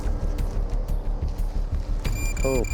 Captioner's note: beeping